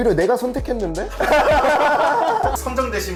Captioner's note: laughs